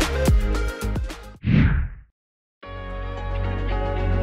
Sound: air whooshing; wistful instrumental music

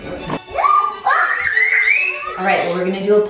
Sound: screaming

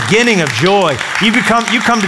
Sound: applause

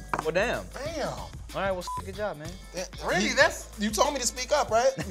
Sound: beep

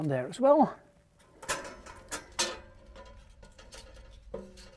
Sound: metals clinking

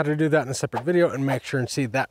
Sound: icon swooshes

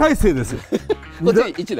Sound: laugh

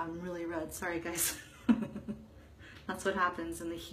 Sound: chuckles

